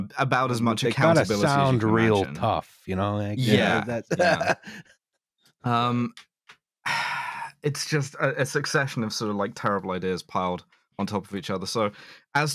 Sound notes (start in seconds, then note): 3.4 laughs; 6.8 sighs